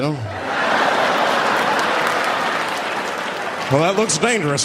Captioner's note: audience laughing